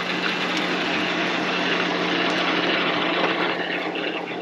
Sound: roaring continues

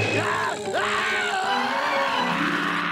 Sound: screaming

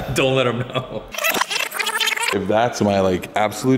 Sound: laughter

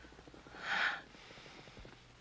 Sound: sighs

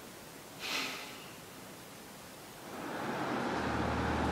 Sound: Anthony sighs heavily

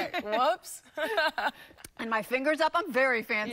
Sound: laughter

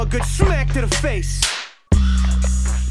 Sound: smack

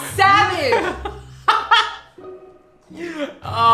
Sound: laughs

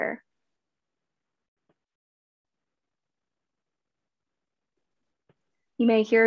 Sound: silence

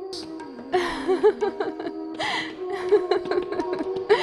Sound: laughs

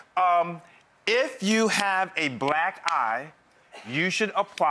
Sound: claps for emphasis

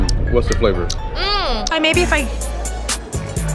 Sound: moans

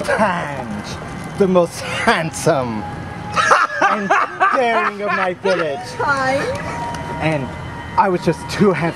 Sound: laughing hysterically

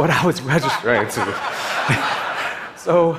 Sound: audience laughing

